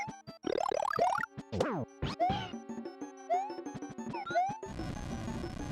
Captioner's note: intense music; silly video game noises